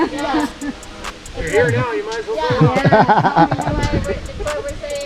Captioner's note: laughter